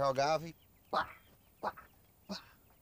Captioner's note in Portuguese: grunhindo